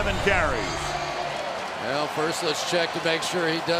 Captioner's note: pa announcement